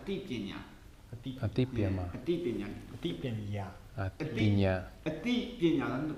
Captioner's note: chatter over pronunciation